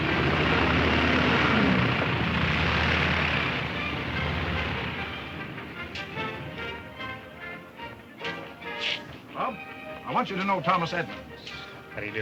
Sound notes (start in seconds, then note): 0.9 airplane motor whirring; 5.9 upbeat band music